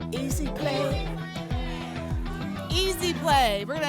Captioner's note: audience shouting games